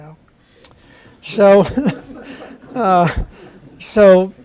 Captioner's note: laughter